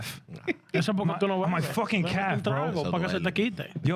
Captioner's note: speaking In Foreign Language